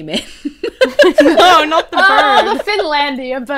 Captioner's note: hosts laugh